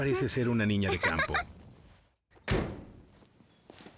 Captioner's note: door slams